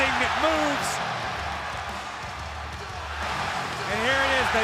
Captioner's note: applause